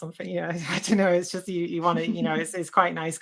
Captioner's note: laughs